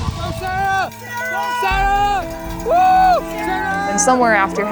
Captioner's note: cheering